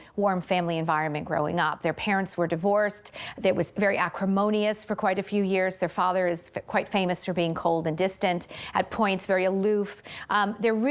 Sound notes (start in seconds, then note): none